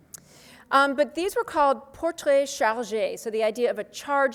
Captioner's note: speaks foreign language